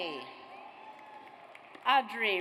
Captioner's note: audience cheers